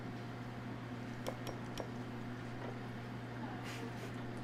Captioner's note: glass clinking